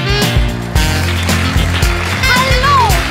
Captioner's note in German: Applaus